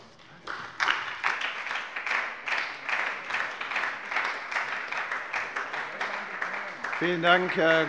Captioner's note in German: Beifall bei der SPD - Zurufe von der CDU